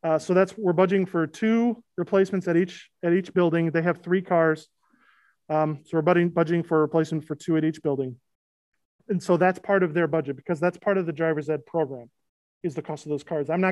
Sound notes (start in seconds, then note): none